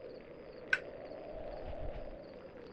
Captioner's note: lighter closes